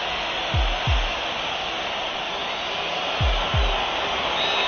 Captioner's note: crowd whistling